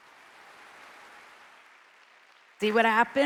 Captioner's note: audience applauding